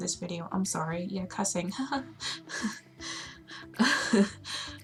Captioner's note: awkward laughing